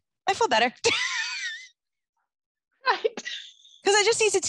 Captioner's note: both laugh